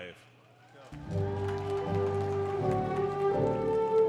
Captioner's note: applause